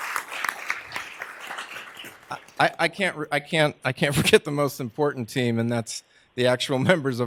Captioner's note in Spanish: aplausos